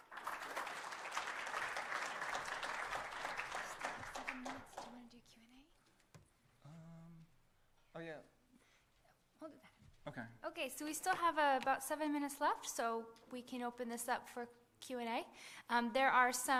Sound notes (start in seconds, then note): 4.0 applause